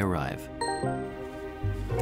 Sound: computer alert

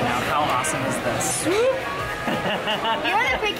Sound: laughs

